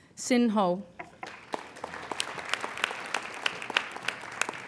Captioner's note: applauding